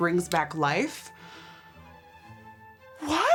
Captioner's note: gasps